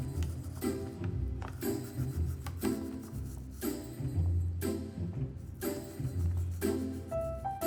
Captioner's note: gentle upbeat music; toothbrush swishing